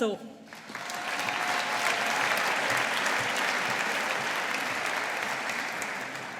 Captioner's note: audience applauding